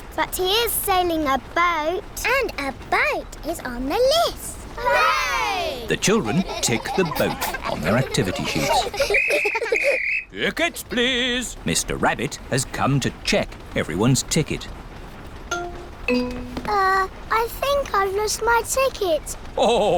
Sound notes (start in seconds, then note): 9.1 blows whistle